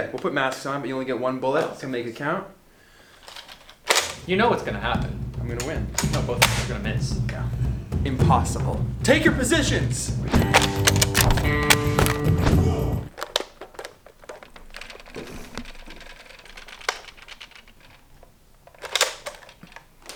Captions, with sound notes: - Yeah. We'll put masks on, but you only get one bullet. So, make it count. (cocking gun) - You know what's gonna happen. - I'm gonna win. - No, both of us are gonna miss. - Yeah, impossible. Take your positions! (guns cocking)